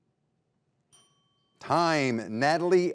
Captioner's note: bell dings